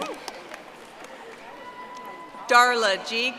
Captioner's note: audience applauding